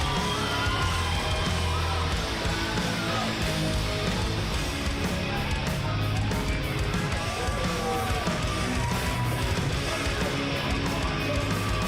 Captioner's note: crowd cheering